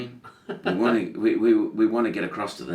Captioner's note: laughing